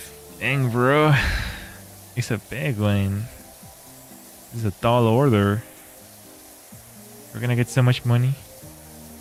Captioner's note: sighs